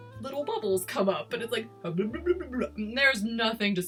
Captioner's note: mimics gurgling